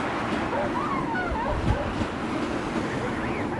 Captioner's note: dog yelping